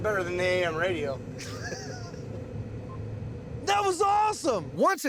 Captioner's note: laughing